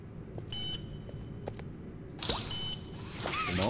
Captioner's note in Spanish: Pitido